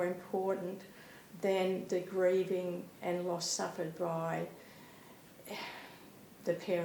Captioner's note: sighs